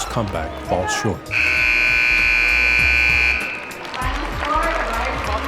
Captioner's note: end of game buzzer